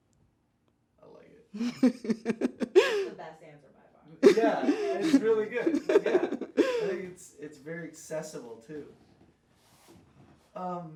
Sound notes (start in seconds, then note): 1.6 laughs